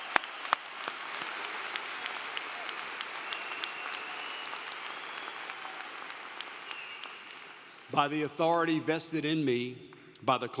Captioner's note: applause